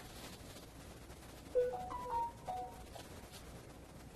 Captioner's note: phone ring